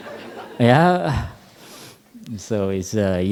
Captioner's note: laughter